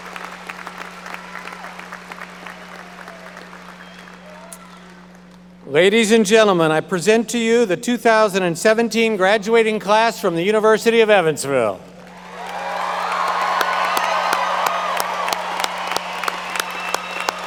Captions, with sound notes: Ladies and gentlemen, I present to you, the 2017 Graduating Class from the University of Evansville. (audience cheering and applauding)